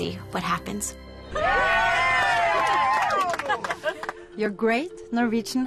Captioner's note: cheering